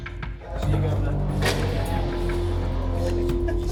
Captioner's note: inmates chatter